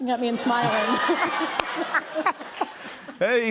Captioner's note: laughter and applause